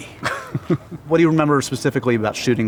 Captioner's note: laughs